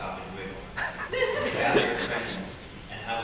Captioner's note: audience laughing